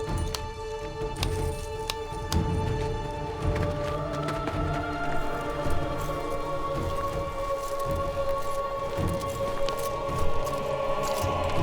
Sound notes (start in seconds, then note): none